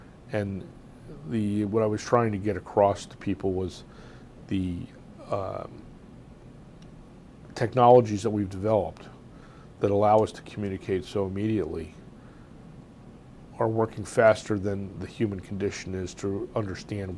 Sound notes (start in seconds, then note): 4.2 pauses for 3 seconds